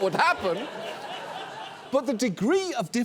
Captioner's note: audience laughs